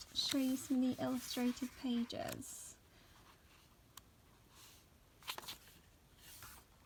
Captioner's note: sound of pages being turned